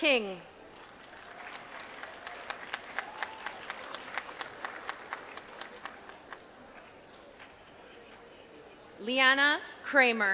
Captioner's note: applause